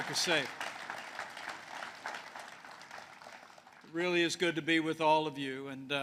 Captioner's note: applause